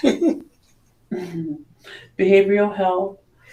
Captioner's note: laughs; chuckles